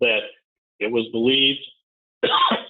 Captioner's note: coughing